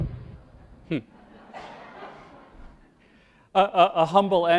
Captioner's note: crowd laughs